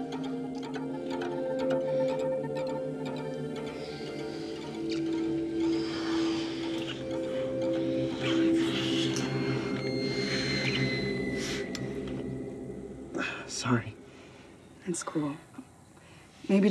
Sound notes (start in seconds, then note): 0.2 suspenseful music; 6.2 both heavy breathing